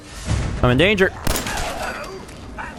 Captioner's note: blam!